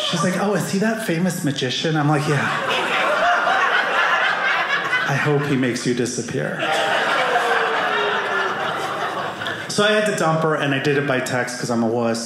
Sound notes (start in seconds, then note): 3.7 audience laughing; 6.4 audience laughing